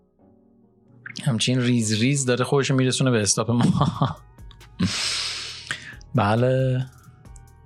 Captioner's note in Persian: خنده